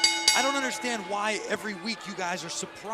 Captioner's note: bell rings